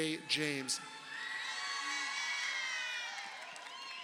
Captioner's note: crowd cheering